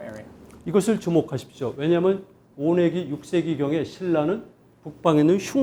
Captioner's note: speaking in Korean